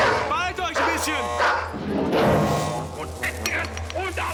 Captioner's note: speaking german